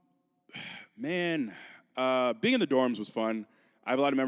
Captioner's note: sighs